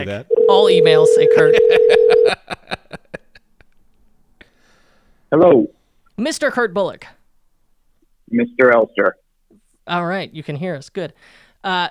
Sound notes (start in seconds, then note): 1.3 laughing; 1.9 dial tone